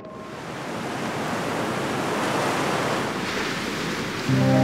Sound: waves crashing

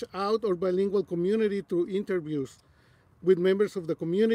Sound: none

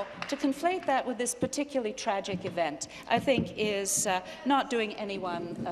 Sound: applause

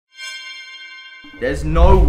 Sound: chime

